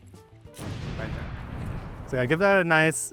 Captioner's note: gun firing